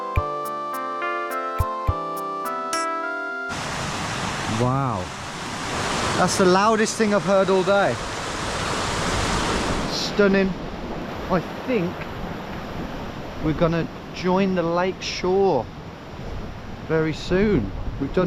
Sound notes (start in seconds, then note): 3.4 water roaring; 8.1 water gushing